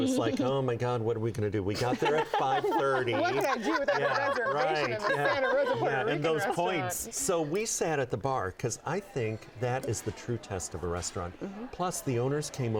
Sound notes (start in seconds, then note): 1.7 laughter